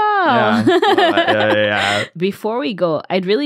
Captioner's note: laughs